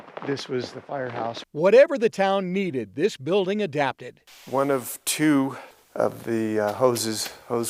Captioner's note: graphics shuffling